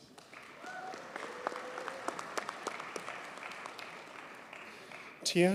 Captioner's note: audience cheers and applauds